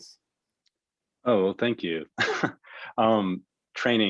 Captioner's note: laughing